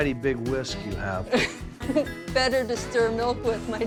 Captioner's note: chuckling